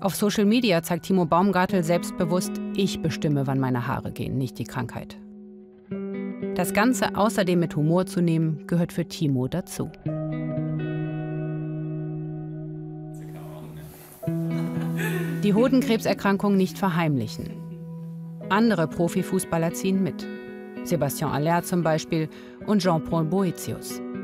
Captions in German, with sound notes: Auf Social Media zeigt Timo Baumgartl selbstbewusst, ich bestimme, wann meine Haare gehen, nicht die Krankheit. Das Ganze außerdem mit Humor zu nehmen, gehört für Timo dazu. (Nachdenkliche Musik) (Leises Gespräch, Lachen) Die Hodenkrebserkrankung nicht verheimlichen. Andere Profifußballer ziehen mit. Sebastien Allaire zum Beispiel und Jean-Paul Boëtius.